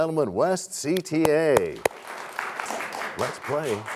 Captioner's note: applause